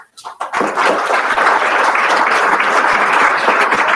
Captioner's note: applause